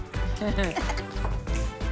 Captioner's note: laughs